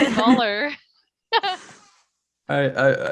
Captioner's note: laughter